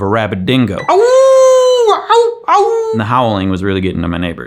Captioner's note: howling